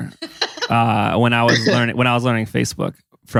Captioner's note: laughs